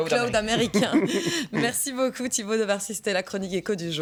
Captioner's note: laughing